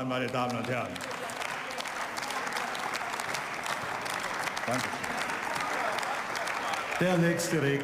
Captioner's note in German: Beifall